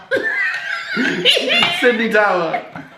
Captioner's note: laughs